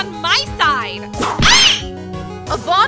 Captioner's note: whip crack!